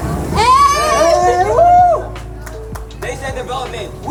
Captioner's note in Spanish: grupo aplaudiendo